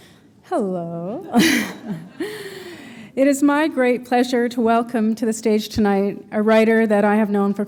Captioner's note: chuckle